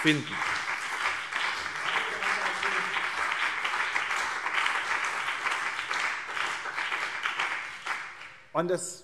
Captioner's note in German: Beifall BÜNDNIS 90/DIE GRÜNEN und CDU - Zurufe